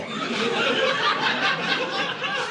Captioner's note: audience laughing